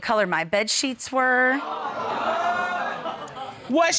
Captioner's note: audience exclaims